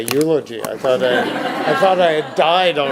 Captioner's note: audience laughs